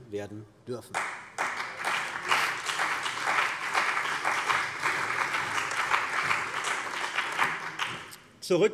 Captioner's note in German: Beifall bei der CDU und dem BÜNDNIS 90/DIE GRÜNEN